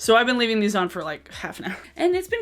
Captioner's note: chuckles